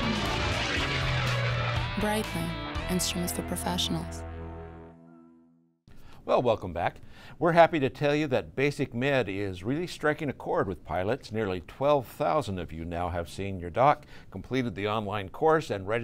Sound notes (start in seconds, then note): 2.1 voiceover